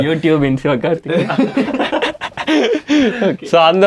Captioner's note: group laughs